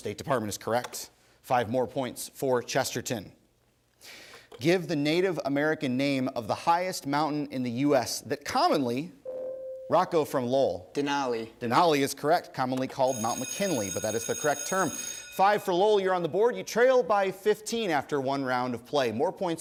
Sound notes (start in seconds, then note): 9.2 ding; 13.0 bell rings